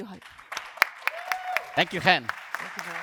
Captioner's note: applause & cheers